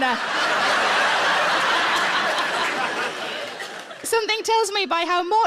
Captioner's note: audience laughs